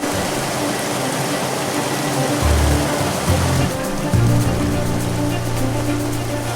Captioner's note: dramatic orchestral music; water rushing